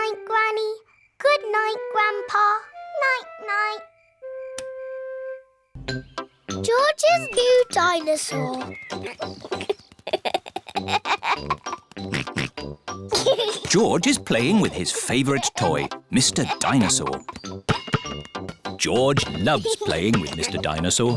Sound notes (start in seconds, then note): 8.9 giggles; 12.1 oinks